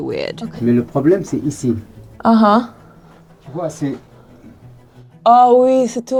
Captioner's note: both speaking in foreign language